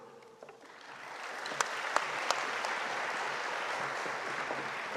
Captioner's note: audience applauding